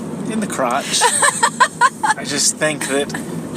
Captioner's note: laughs